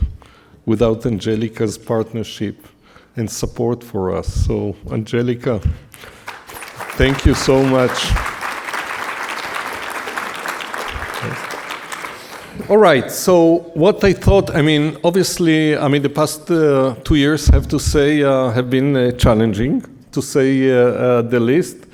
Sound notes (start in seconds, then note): 7.7 audience applauding